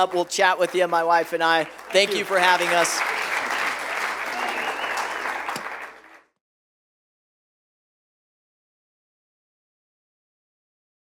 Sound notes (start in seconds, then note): 3.1 applause